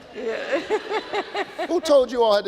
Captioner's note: laughing